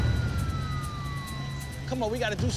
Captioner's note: police sirens